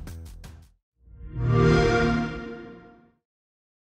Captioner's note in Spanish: sonido xbox